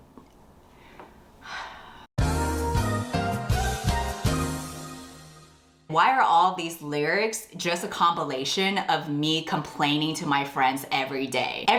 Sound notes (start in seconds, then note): 1.4 sighs